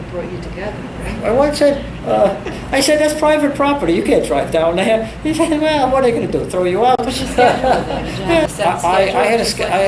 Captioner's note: laughs